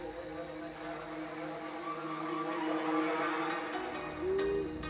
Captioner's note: crickets chirp; eerie music